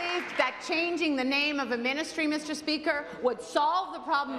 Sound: applause

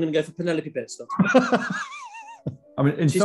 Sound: laughing

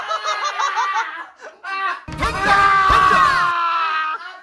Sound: screaming together lol

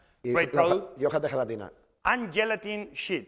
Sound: speaking spanish

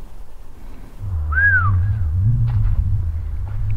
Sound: whistling

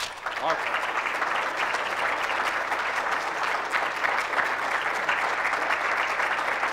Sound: applause from the audience

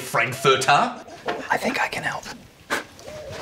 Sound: whispers

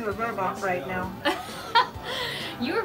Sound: laughs

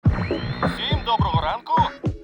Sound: man 1 on radio

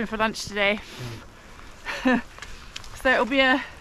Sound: blows rain raspberry

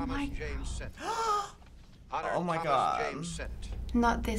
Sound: gasps

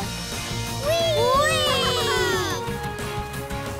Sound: cheering

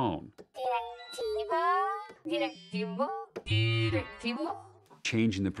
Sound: modulating

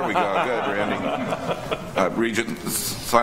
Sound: board members laugh

